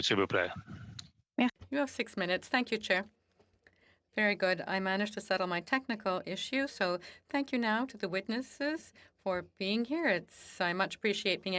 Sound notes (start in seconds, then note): 7.1 speaking FRENCH